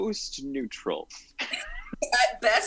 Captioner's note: chuckles